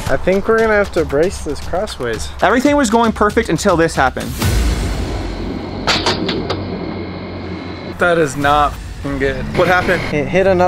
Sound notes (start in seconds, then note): 4.0 dramatic sound; 6.1 nail thudding